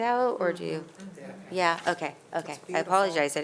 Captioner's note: speaks faintly